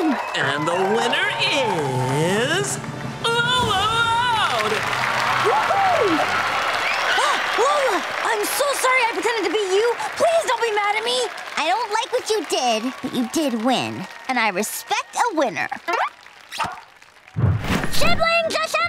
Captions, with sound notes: And the winner is... Lola Loud! Whoo-hoo! [gasping] Lola! I'm so sorry I pretended to be you! Please don't be mad at me! I don't like what you did, but you did win. And I respect a winner. Siblings, assemble!